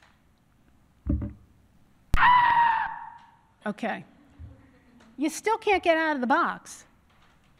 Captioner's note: scream